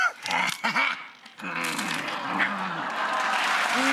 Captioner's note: maniacal laugh; applause